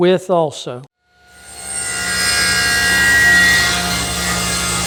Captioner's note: wood cutting